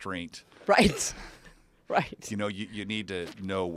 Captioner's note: laugh